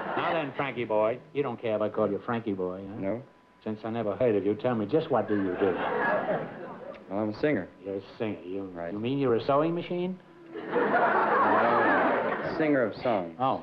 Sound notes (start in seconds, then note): 5.2 laughter; 10.5 laughter